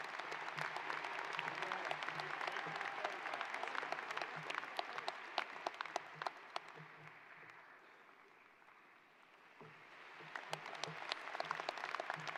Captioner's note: applause